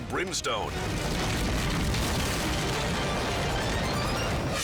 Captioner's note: steeple crashing; scene swooshing